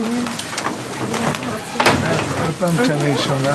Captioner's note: indistinct background chatter